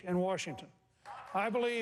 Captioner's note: applause